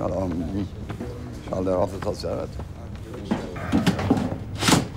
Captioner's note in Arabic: يتحدث بلغة أجنبية